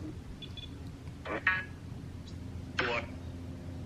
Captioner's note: radio sounds